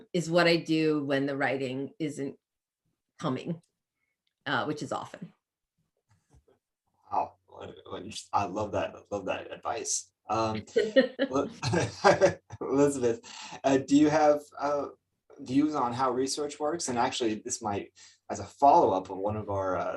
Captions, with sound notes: is what I do when the writing isn't coming, which is often. Wow. I love that advice. -[chuckles] -[chuckles] Elizabeth, do you have views on how research works? And actually, this might, as a follow-up, one of our